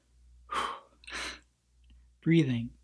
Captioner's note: exhales quickly